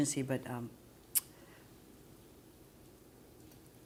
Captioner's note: none